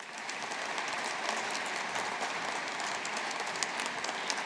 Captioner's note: audience applauding